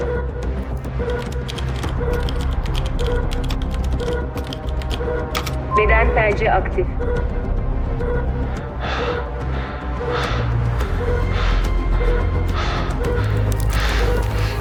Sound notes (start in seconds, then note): 1.0 keyboard clacking; 8.0 breathing